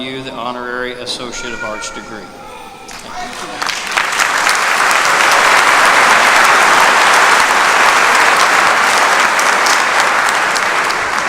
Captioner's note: applause